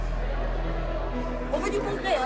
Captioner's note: speaking french